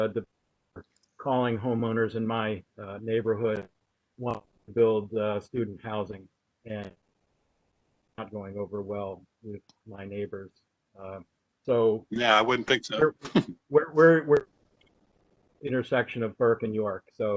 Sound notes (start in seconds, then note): 13.2 laughter